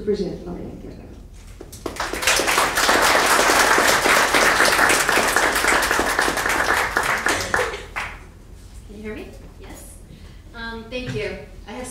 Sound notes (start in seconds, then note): 1.7 audience applauding